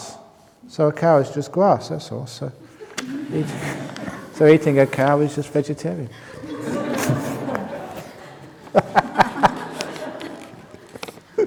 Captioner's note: laughter